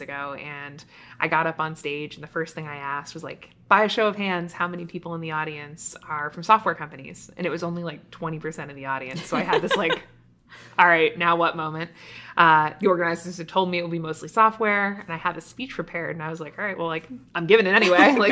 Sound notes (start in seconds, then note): 9.1 laughing; 17.8 laughing